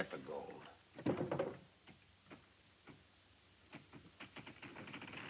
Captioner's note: light clattering